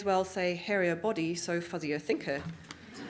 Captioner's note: audience Laughing